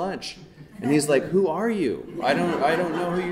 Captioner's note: audience laughing